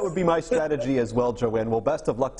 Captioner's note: laughter